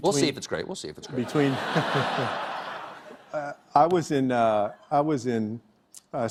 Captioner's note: laughter